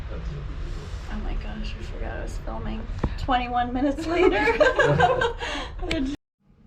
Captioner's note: giggles